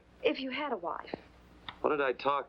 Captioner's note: none